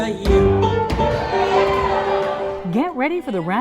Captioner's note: crowd cheering